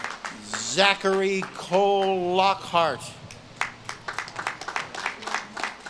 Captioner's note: audience claps and cheers